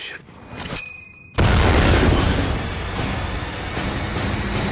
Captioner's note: clang; loud explosion; dramatic music